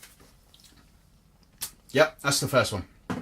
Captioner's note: smacks lips